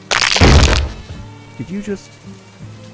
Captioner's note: bone crunch sound